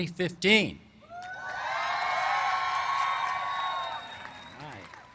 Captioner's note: cheers and applause